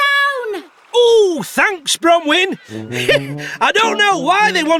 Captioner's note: chuckles